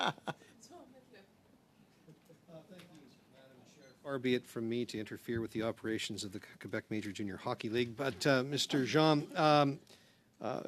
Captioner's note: laughter